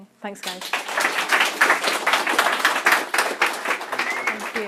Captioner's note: applause